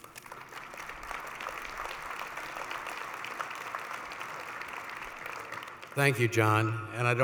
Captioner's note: applause